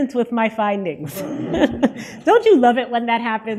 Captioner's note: audience laughter